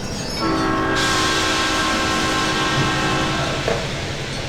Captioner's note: SP Cab Car horn